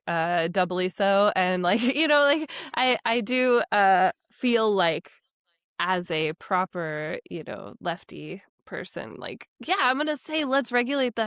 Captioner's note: chuckles